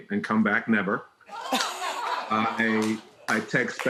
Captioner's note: audience laughing